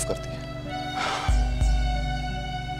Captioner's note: Aniket exhales